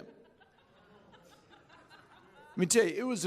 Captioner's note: chuckling